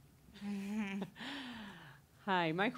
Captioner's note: chuckling